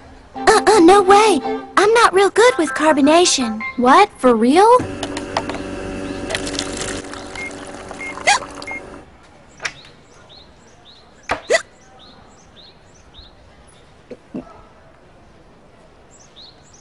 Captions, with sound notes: Uh-uh, no way. I'm not real good with carbonation. What, for real? (machine whirrs and beeps) Hic! Hic!